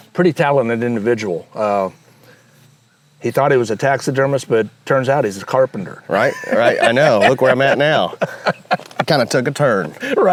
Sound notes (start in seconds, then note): 6.1 laughs